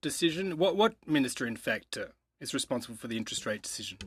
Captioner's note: speaking French